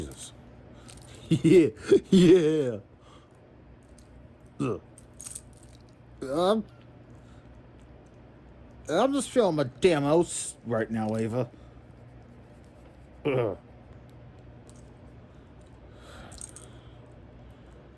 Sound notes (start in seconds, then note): 1.2 giggles